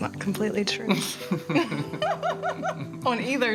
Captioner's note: both laughing